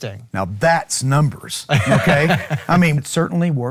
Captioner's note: laughing